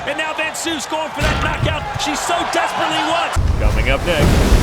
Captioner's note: announcer speaking; audience chattering; dramatic thudding; announcer continues; waves crashing